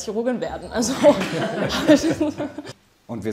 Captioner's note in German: Lachen